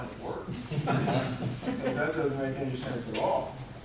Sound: audience laughing

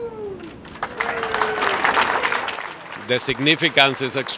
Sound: applause

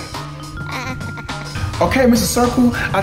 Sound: circle laughing

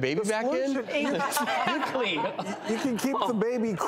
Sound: laughing

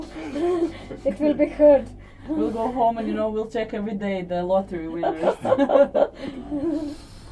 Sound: laughter

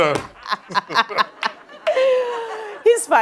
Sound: laughing

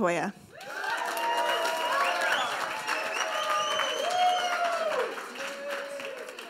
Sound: audience cheer and applauds

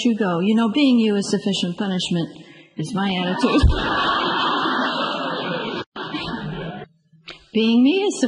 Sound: group laughs

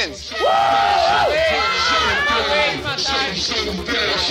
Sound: on-lookers yelling

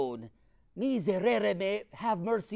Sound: speaking in foreign language

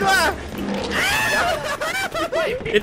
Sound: laugh

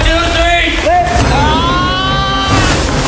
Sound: screaming; dramatic music

